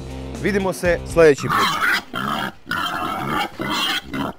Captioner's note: grunts